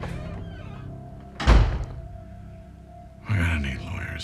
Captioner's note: door slams